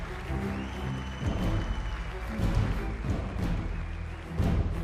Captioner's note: audience applauds